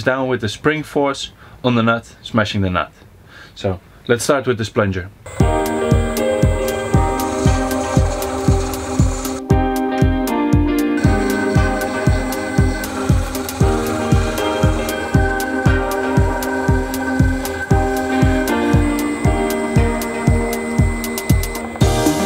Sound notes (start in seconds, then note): 5.4 upbeat instrumental music; 7.4 machine whirring; 19.0 high pitch machine whirring; 22.0 upbeat instrumental music